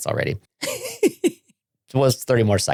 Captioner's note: laughing